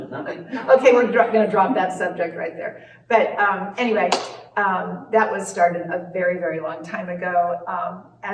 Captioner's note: claps hands